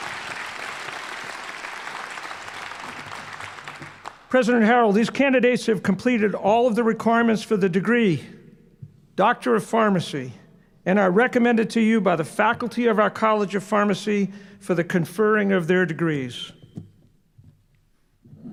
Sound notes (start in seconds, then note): 4.3 applause